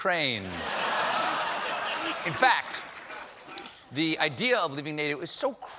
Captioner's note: laughter